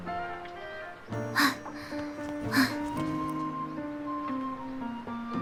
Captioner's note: huff